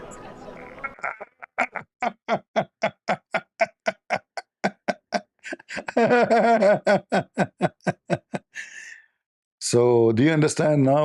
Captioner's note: Ketawa